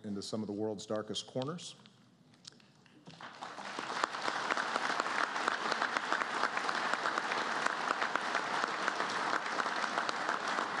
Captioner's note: applause